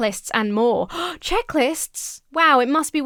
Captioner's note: gasps